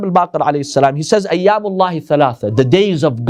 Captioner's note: Arabic